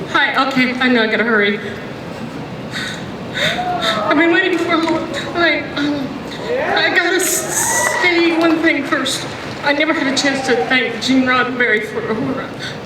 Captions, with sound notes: - [Voiceover] Hi, I know I've gotta hurry (gasps) I've been waiting for a long time, I gotta say one thing first. I never had a chance to thank Gene Roddenberry for Uhura.